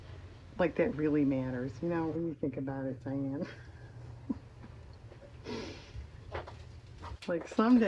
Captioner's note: laughs